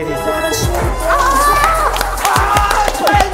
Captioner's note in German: Jubel